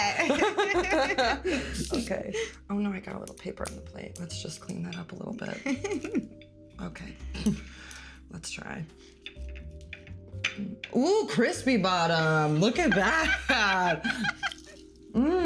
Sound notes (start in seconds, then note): 0.0 both laughing; 5.5 laughing; 12.8 laughing